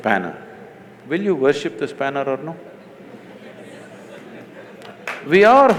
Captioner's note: laughter/Applause